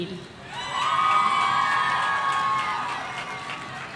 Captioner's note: audience cheering